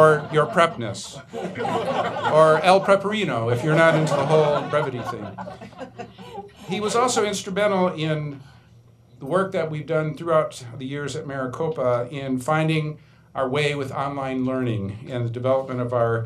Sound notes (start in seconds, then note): 3.5 laughing